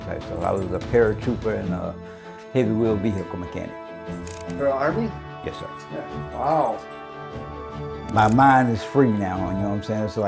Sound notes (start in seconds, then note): 6.2 key jingling